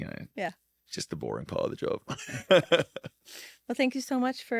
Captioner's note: laughs